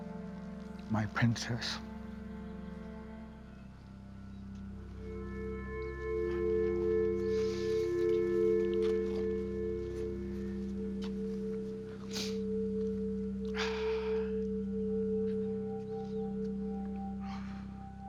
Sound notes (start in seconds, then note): 12.0 sniffles; 13.5 exhales